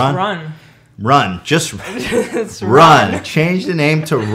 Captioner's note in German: lachen